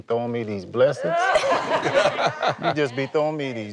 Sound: laughter

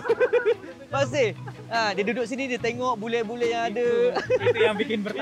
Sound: laugh; laugh

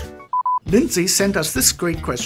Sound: beeping

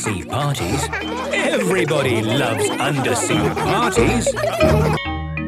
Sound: laughter

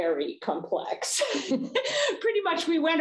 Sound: chuckles

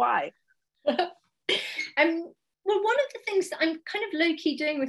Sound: laughs

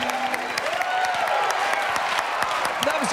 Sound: mariachi music; cheers and applause

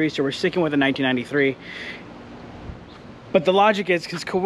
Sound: none

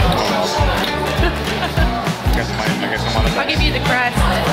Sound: laughing

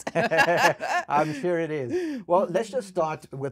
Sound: both laughing

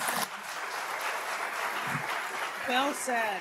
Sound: applause

